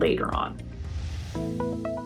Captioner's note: swoosh